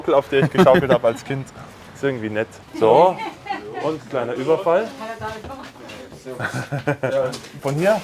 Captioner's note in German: gelächter